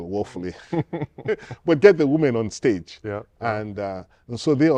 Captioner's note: laughter